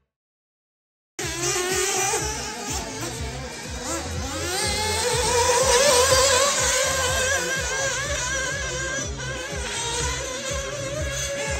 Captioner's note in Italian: engine sound